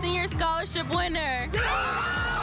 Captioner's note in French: Cheers